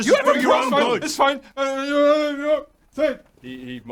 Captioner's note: whines